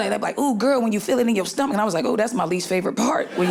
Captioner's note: audience laughing